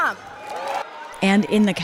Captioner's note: cheering